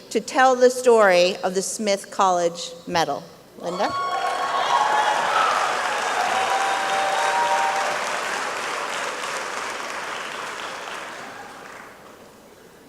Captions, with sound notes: to tell the story of the Smith College Medal, Linda? (applause and cheering)